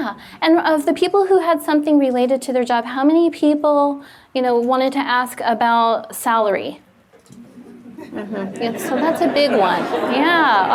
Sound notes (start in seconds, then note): 7.9 audience laughs